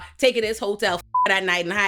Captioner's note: beep